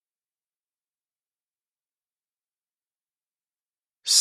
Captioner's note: silence